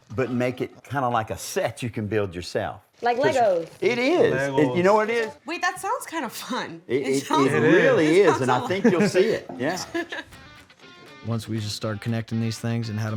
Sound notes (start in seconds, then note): 8.0 laughter